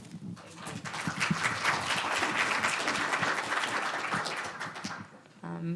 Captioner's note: audience applauding